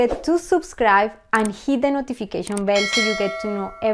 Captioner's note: bell ringing